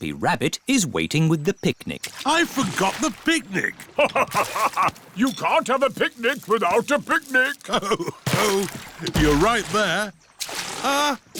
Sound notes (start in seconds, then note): 3.8 laughs